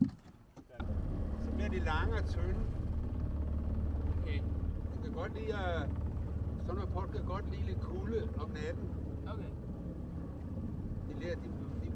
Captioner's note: speaking danish about gardening